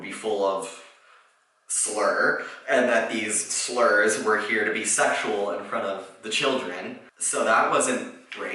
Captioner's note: slur; slurs